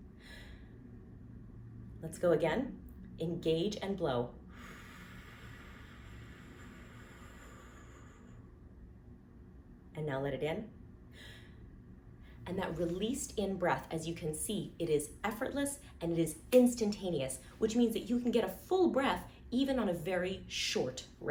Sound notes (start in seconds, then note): 6.2 exhaling; 11.1 inhaling